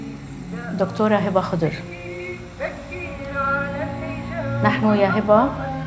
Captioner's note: speaking in foreign language